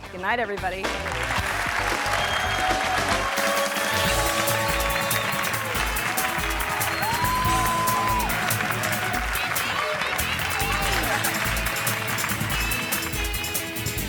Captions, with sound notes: Goodnight, everybody. (hands clapping) (audience cheering) (lively upbeat music) (audience cheering) (audience cheering continues)